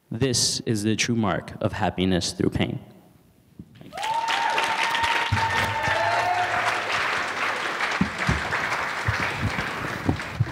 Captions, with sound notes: This is the true mark of happiness through pain. (audience applauds and cheers)